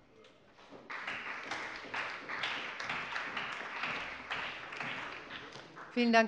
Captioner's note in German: Beifall bei der CDU und dem BÜNDNIS 90/DIE GRÜNEN